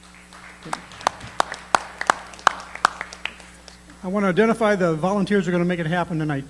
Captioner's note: applause